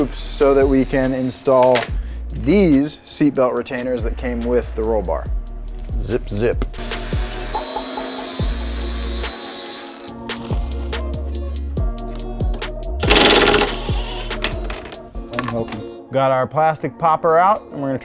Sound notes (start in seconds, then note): 6.8 saw whirring; 7.0 hip hop beat; 13.0 drilling